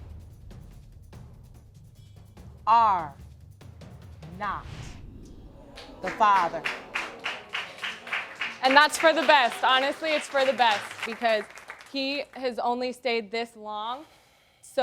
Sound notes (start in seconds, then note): 2.5 audience groans; 5.7 audience applauding